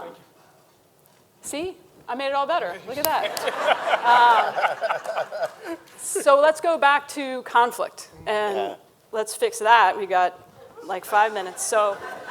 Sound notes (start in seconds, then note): 2.9 everyone laughing